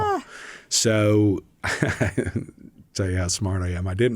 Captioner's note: laughs